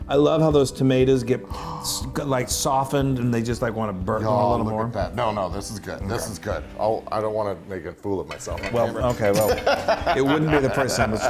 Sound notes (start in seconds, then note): 9.2 laugh